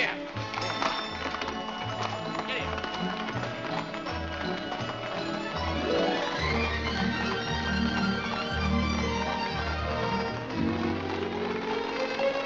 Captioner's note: hooves trotting